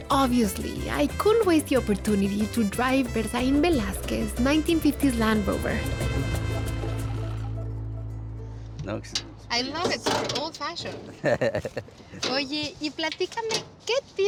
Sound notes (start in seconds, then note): 11.2 laughs; 12.2 speaking Spanish